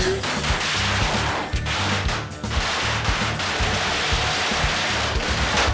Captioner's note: explosion crackling and popping